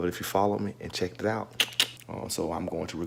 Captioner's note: tongue clicking